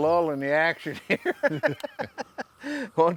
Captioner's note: laughter